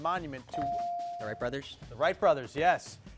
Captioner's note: bell dings